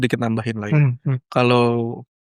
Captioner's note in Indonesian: berdehem